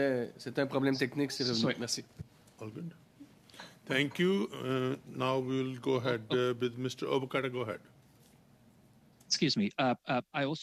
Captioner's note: speaking French